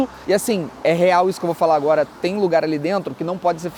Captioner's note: none